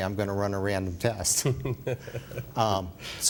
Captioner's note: chuckles